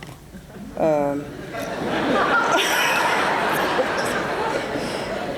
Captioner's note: laughter